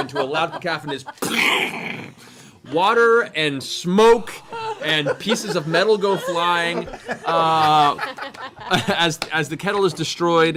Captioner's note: explosion sound